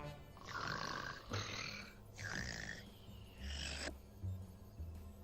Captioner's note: loud Snoring